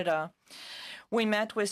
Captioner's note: speaking in French